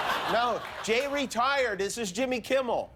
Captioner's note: laughter